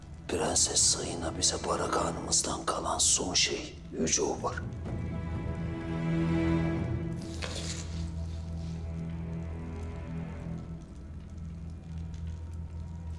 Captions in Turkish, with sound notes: Prenses Sayina bize Barak Hanımızdan kalan... ...son şey, Yüce Obar. [Isırma sesi] [Ateş çıtırtısı sesleri]